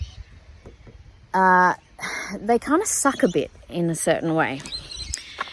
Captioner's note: sighs again